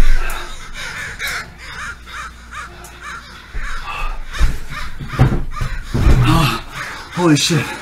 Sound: crows cawing

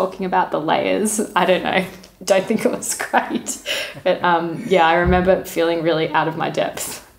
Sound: laughing

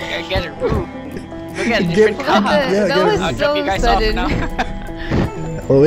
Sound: chatters

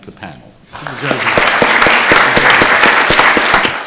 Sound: applause

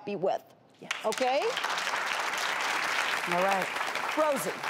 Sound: audience claps

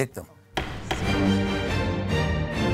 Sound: dramatic music; gavel banging

